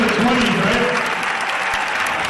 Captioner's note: applause